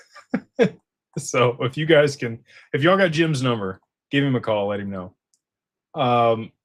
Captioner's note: laughter